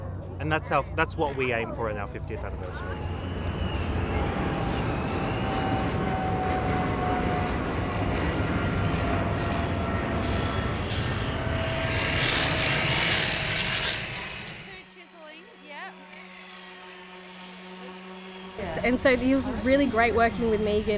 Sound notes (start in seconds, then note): 4.0 plane Flying, Grinding